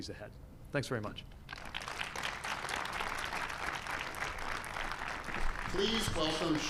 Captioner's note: applause